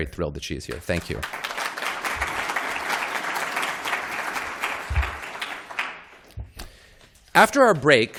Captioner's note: applause